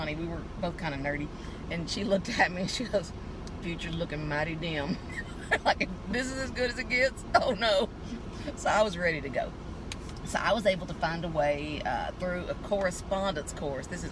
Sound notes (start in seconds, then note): 5.1 laughing